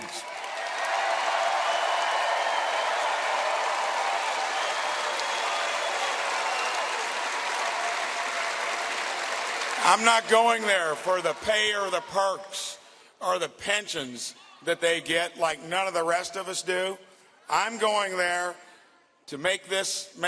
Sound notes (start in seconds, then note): 11.5 cheers and applause